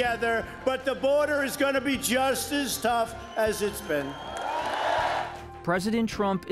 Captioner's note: cheers, applause